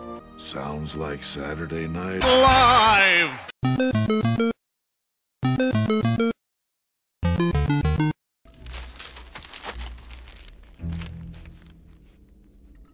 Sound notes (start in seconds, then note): 8.4 paper crackling